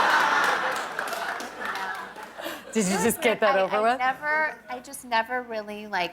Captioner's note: laughter